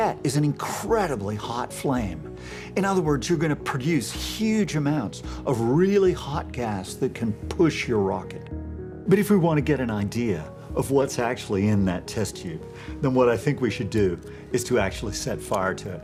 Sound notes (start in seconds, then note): none